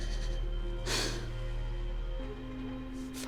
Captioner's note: sighs